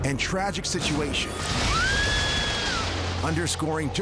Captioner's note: woman screaming